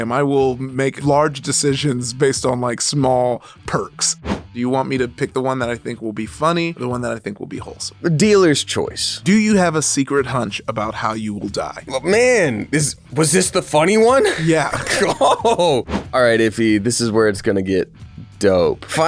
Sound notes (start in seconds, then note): 14.2 both laughing